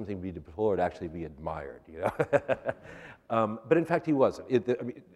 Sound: laughter

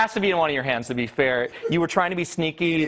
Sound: laughter

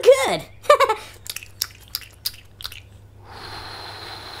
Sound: chewing; blowing

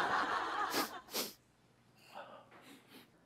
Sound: sniffing

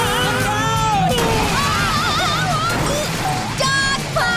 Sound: crashing

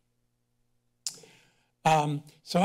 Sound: kisses teeth

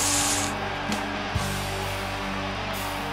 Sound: cheers, applause

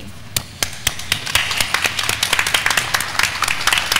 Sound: attendees clapping

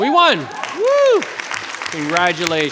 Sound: audience applauding

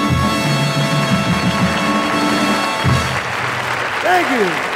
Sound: audience applauding

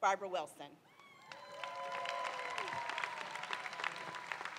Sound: crowd cheering

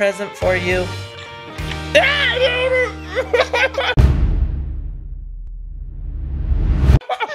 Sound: both laugh

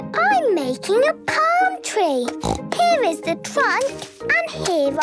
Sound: snorts

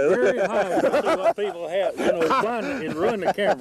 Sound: laughter

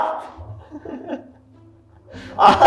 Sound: laughing

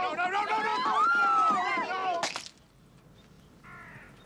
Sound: splat

